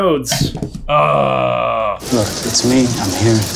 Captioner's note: grunting